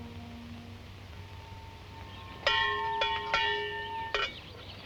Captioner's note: bell dinging